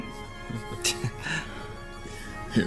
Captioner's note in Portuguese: Todos riem; risos